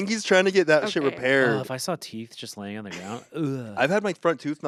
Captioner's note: gags